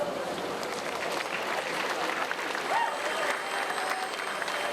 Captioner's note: audience applauds